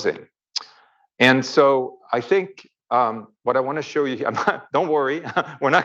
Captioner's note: chuckles